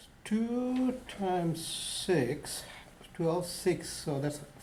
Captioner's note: voiceover